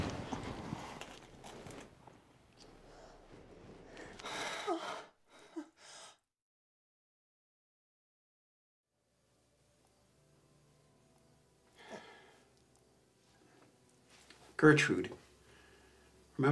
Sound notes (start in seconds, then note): 4.0 moaning